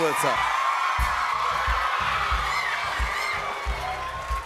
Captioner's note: cheers and applause